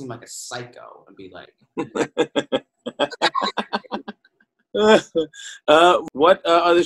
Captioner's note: laughs